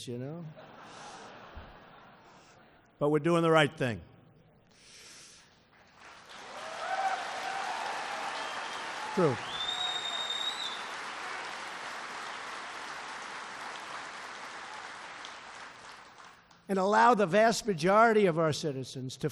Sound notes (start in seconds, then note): 2.0 laughter; 5.8 applause